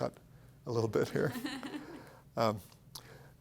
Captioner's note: laughs